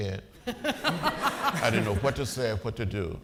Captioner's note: audience laughing